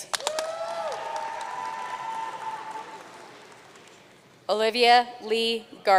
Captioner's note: audience cheering and applauding